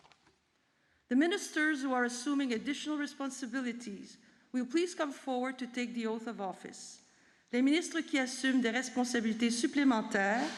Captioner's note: speaking french